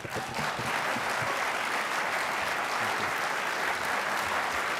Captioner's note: applause